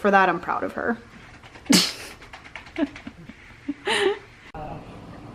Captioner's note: laughing